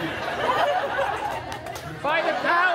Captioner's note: guests laughing